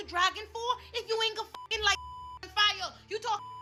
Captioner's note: beep